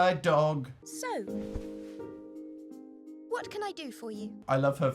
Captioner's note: serious voice